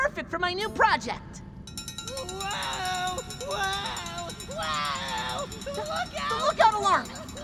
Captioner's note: rattling alarm